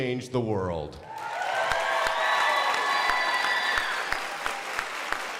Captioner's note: crowd applauding